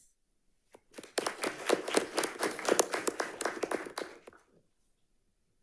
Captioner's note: audience applauding